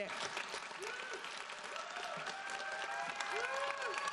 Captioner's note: audience applauds